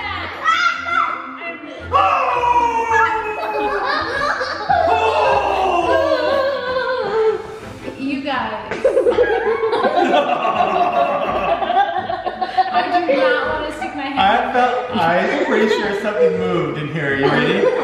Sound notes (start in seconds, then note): 2.2 yelling; 4.4 laughing; 8.8 laughing